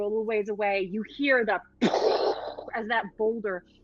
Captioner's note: imitating booming